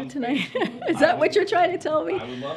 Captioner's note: laughs